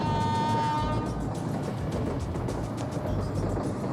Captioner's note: horn honks